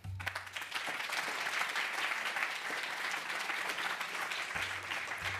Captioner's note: applause